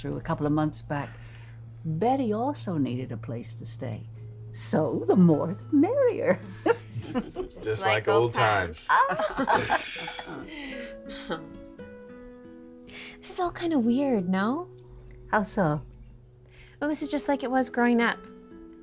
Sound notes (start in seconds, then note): 6.4 Charlotte laughs; 8.7 group laughing